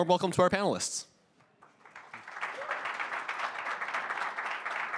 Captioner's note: applause